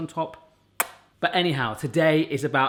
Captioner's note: kisses